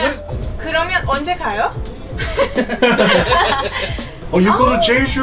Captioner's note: speaking foreign language